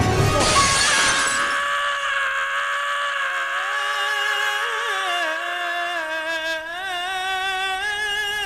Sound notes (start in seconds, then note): 0.8 scream